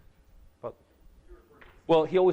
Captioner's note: speaks off microphone